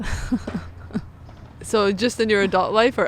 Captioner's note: both chuckle